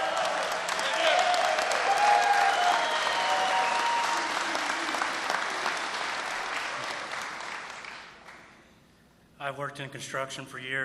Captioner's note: applause